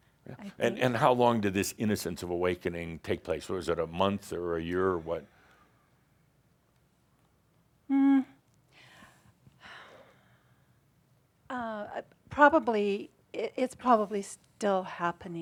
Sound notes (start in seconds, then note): 10.9 she sighs